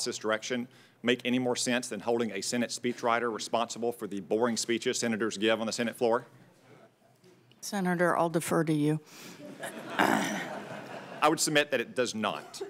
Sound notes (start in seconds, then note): 9.4 laughter